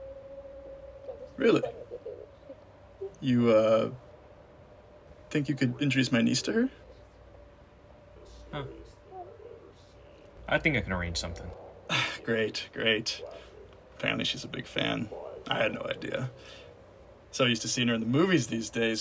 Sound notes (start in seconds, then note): 11.8 sighs